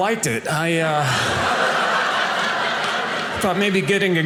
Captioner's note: audience laughing